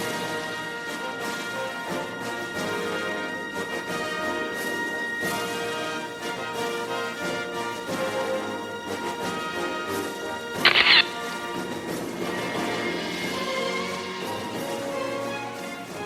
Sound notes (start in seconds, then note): 10.7 camera shatters; 12.7 orchestral music